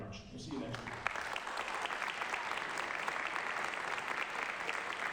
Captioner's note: applause